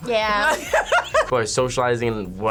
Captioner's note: laughs